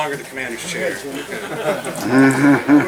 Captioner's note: laughing